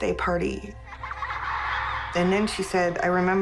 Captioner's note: children laughing